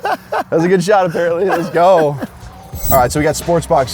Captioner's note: laughs; laughs